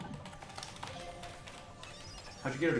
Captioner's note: rapid typing